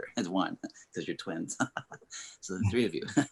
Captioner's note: Clifton laughing